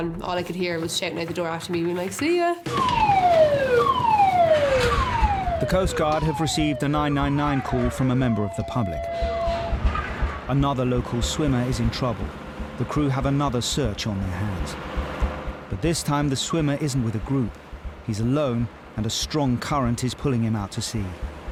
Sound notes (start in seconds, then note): 2.8 alarm blaring